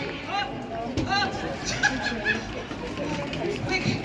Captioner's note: laughter